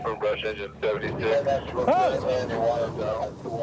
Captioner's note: shouting